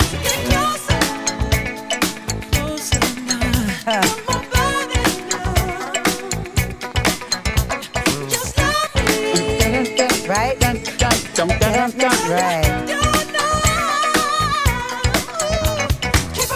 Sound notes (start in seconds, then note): 11.6 vocalizes